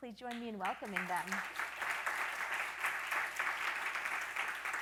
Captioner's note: audience applauding